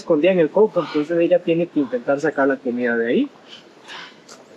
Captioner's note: in Spanish